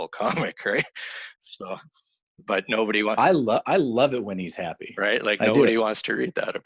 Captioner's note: laughing